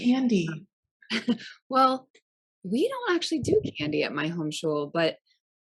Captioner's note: laughs